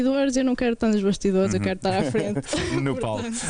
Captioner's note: laughter